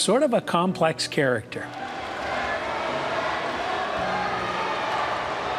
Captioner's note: crowd cheering